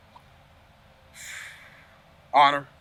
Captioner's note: exhales